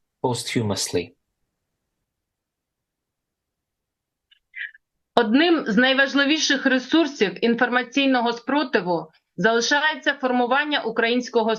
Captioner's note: foreign language